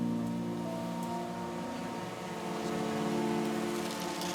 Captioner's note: drone buzzes loudly